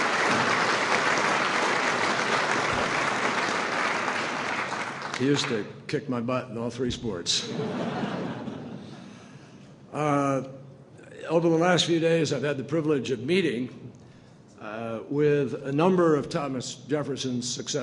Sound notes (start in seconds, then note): 3.3 applause; 7.4 laughter